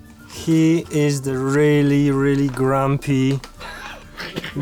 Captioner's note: in English